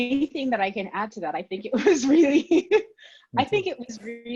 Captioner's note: laughs